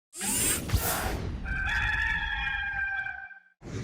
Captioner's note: rooster crowing